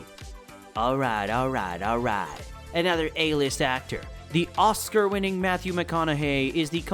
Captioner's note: in Matthew McConaughey accent